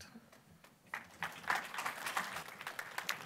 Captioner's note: applause